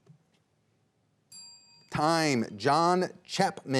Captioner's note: bell dings